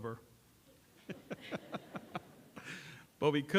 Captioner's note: laughter